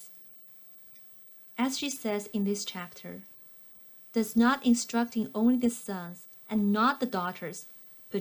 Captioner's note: click